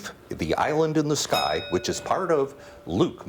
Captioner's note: bell rings